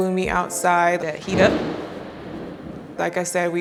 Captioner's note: thunder rumbling